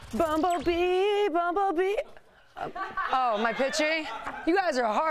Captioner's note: laughter